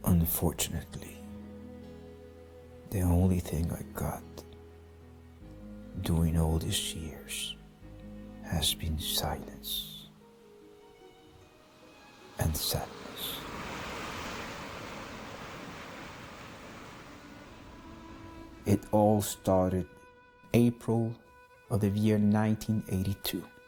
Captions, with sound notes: Unfortunately, the only thing I got during all these years has been silence and sadness. (waves crashing) It all started April of the year, 1982.